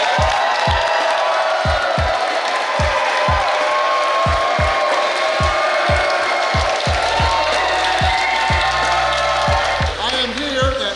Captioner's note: cheering & Clapping